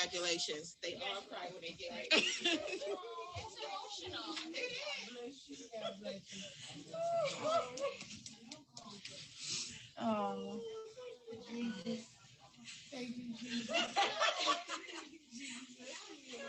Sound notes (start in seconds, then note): 2.1 laughing; 7.4 crying; 13.4 laughing